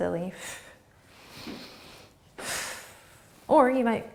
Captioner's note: breathing